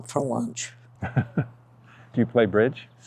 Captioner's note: host laughs